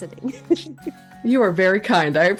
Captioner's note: laughs